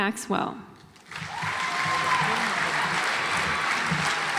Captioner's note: audience applauds